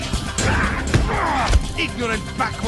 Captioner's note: both grunt